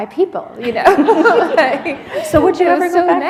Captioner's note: laughter